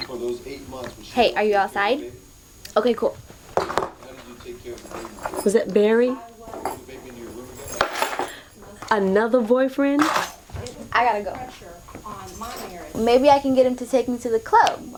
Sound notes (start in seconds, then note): 7.3 keys jangling